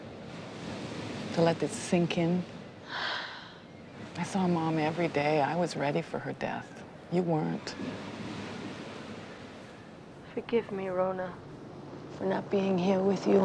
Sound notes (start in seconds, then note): 2.8 sighs